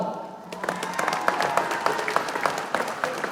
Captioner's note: applause